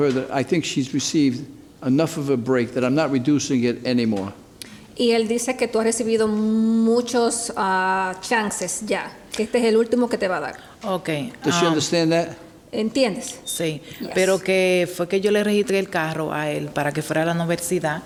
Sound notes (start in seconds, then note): 5.1 speaking Spanish; 13.2 speaks Spanish